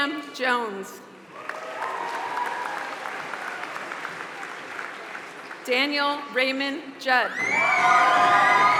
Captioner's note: applause; applause